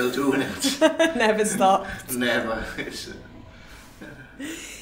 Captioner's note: laughs